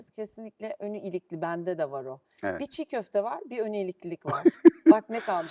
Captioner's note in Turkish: kahkaha